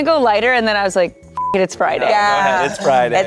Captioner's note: beep